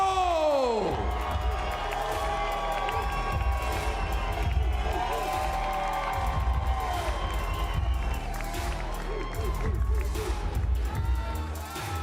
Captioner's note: cheers and applause